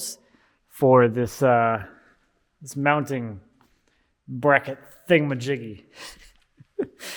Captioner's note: chuckles